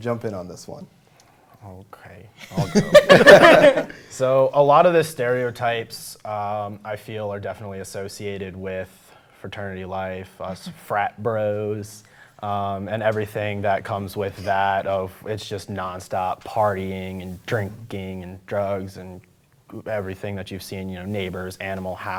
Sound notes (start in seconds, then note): 2.4 laughter